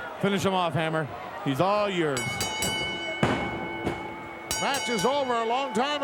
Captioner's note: bell chimes